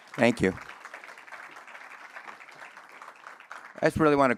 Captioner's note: audience applauds